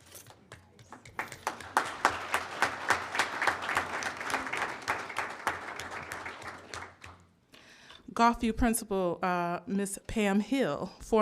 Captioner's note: applause